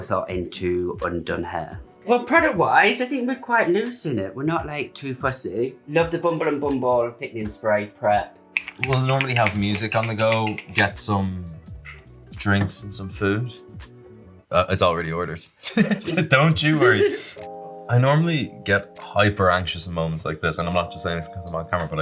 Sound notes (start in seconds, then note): 8.5 bottle clicks; 15.6 laughs